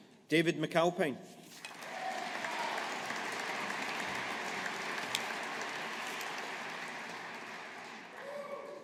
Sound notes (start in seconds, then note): 1.7 audience applauding